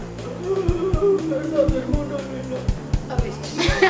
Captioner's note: zombie voice